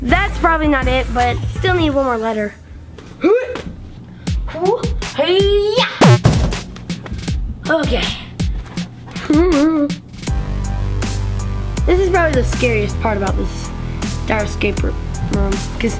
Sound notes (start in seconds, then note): none